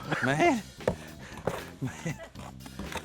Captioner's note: chuckles